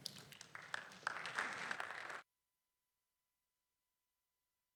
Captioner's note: audience applauding